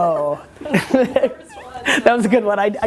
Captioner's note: both laugh